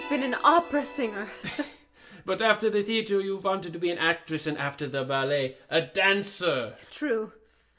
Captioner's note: chuckles